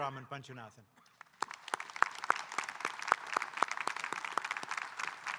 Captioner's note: audience applauding